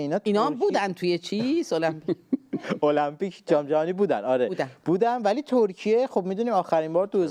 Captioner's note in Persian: خنده